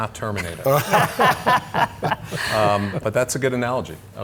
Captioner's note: laughing